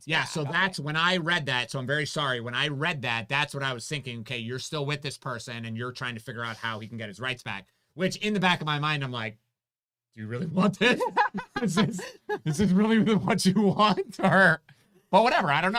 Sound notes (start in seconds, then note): 10.4 laughs